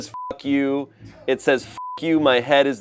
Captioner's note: beep